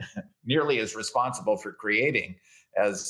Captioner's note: laugh